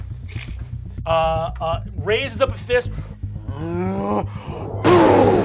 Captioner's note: crashing